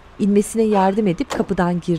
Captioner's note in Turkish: Kapı gıcırtı sesi